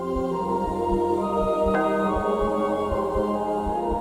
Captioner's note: bell